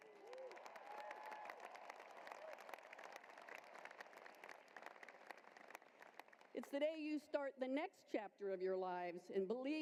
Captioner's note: cheering and applause